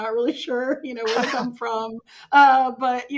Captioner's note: laughing